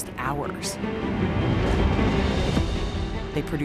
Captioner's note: thunder rumbling